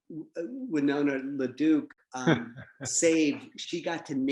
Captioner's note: laughs